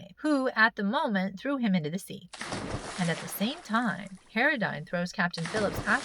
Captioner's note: splash